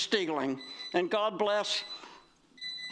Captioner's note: buzzer